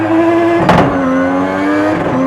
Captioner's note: car bumps object